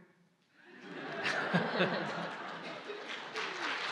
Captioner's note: audience/ Laughter